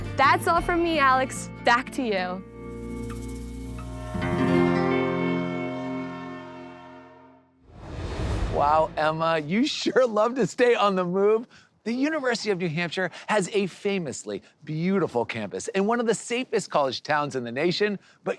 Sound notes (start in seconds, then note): 3.8 gentle acoustic music; 4.7 train horn